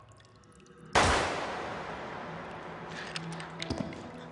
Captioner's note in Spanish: Disparo